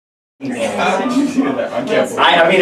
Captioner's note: group chatter